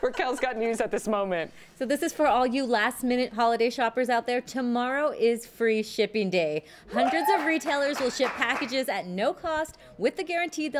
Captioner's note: laughter